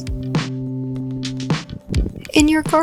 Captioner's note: ambient wind